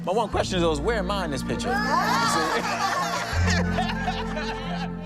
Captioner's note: laughter